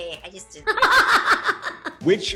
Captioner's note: laughter